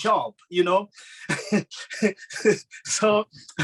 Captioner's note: laughing